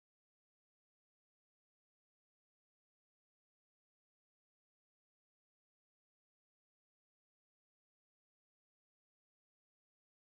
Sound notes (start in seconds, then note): none